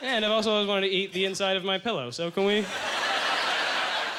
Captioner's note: audience laughter